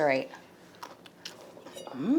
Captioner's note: radish crunches